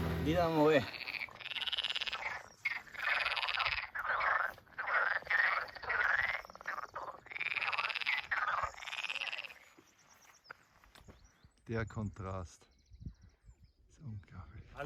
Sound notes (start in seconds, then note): 0.7 frog croaking